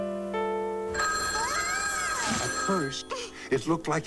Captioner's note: telephone rings